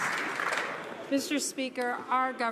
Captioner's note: some Applause